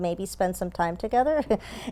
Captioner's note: laugh